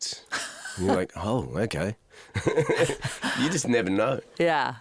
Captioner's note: laughs